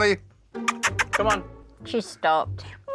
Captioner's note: imitating kissing